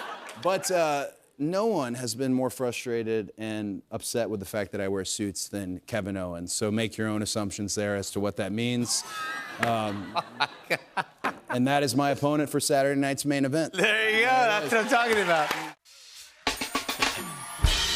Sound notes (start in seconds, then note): 9.0 laughing